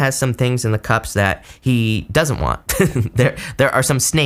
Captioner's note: laughs